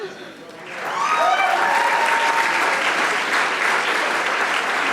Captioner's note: audience applauding